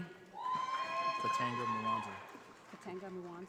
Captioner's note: audience applauding